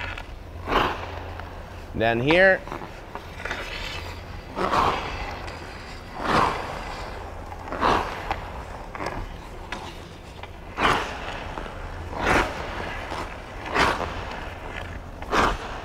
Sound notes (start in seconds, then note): 3.8 skates swooshing; 3.8 stick scraping; 11.2 skates swooshing